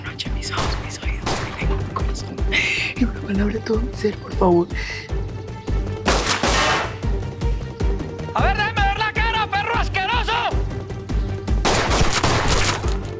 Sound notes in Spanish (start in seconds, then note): 6.0 Disparos; 11.6 Disparos